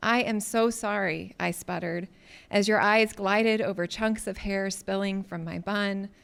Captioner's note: none